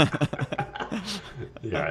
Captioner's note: laughing